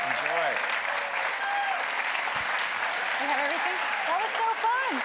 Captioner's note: audience applauding